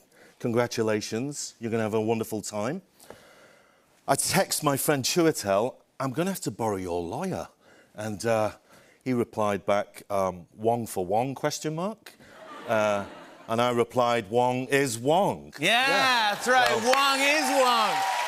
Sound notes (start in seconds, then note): 12.3 laughter; 15.8 cheers and applause